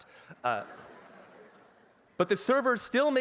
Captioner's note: laughter